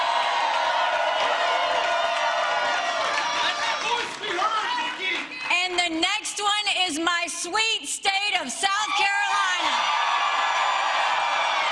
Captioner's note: applause